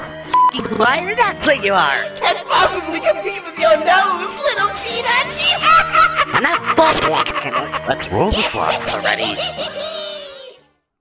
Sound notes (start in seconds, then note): 5.2 Jevil uproariously laughing